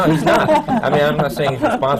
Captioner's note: laughter